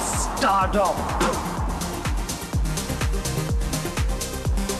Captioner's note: spitting